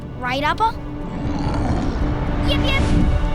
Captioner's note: Appa grunting